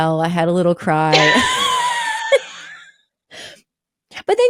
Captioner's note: both laughing